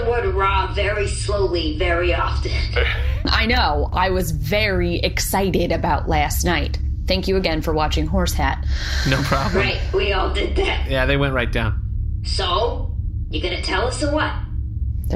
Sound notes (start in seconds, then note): 9.0 laughing